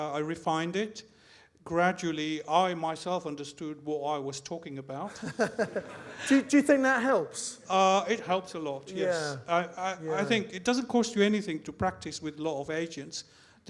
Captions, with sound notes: I refined it, gradually, I myself understood what I was talking about, (host laughs) (audience laughs) - Do you think that helps? - It helps a lot, yes. I think it doesn't cost you anything to practise with a lot of agents.